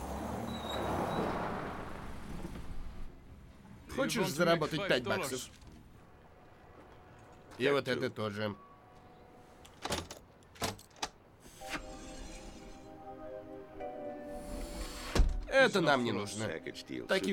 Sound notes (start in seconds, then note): 0.0 vehicle approaches, squeaking; 10.4 latches pop; 12.3 r hisses